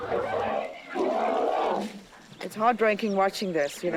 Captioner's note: grunting